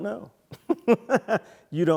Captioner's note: laugh